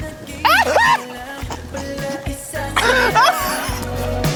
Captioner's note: laughter